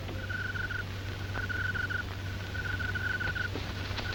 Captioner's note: crickets chirping